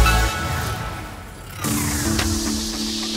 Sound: loud whooshing; soft upbeat music

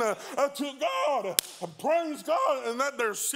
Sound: hands clap

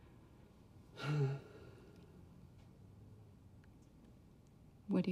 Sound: Charlie sighs

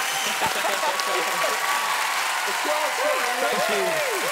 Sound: laughing

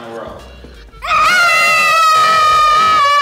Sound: both scream

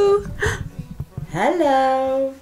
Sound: gasps excitedly

